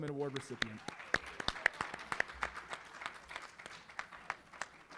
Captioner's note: applause